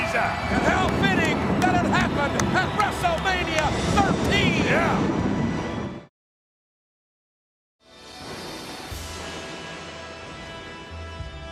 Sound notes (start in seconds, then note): 0.0 audience cheers; 0.6 ominous music continues; 6.0 thunder rumbles